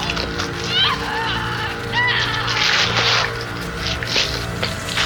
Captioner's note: Rainey screaming